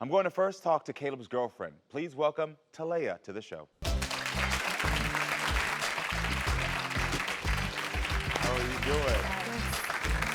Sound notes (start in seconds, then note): 3.8 audience clapping; 3.8 upbeat music